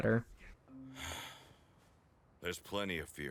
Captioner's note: All Might sighs